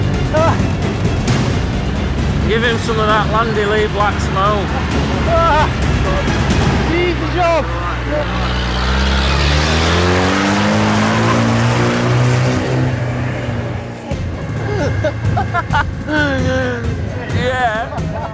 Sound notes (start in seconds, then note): 0.2 dramatic music; 7.2 yelling; 15.3 bikers laughing